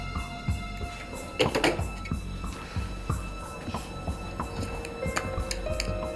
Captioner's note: dramatic music; phone clicking